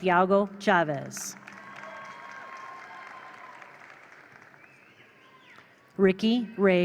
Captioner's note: attendees applaud; attendees cheer